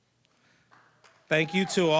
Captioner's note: cheering, applause